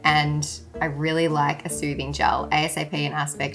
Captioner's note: none